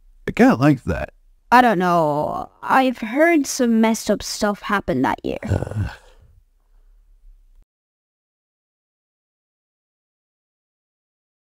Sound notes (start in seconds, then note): 5.4 groans